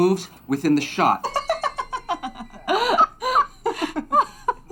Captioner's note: laughing